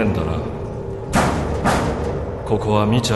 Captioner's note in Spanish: dos golpes en la pared